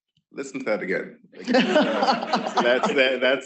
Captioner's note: laughter